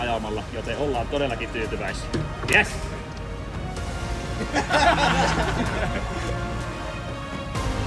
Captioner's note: laughter